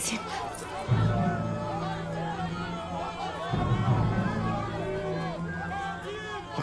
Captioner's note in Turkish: Kalabalık bağrışma sesleri